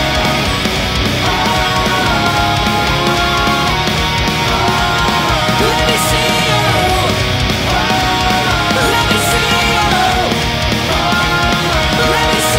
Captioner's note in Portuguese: Ahhhhhh